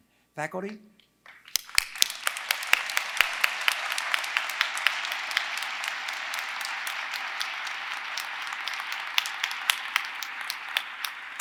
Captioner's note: applause